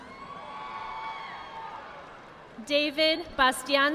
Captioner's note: audience applauding